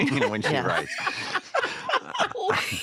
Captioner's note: all laugh